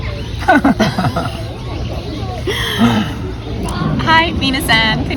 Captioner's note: laughter